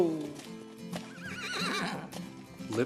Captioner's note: neighing